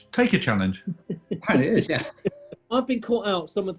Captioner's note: chuckling